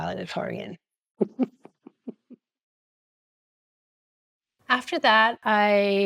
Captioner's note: laughing